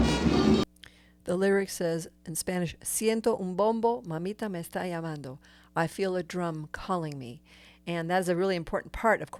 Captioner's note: in Spanish